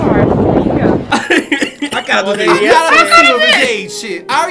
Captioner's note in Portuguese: tosse